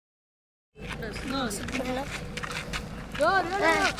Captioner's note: non-english speech